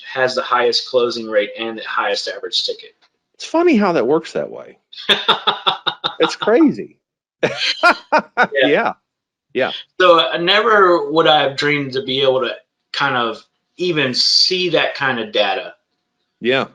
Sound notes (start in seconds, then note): 5.0 laughs